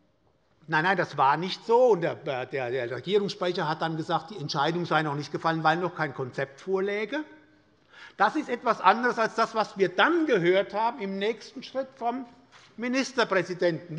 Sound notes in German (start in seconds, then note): none